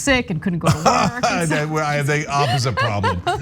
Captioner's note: laugh